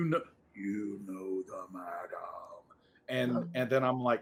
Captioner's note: heavy voice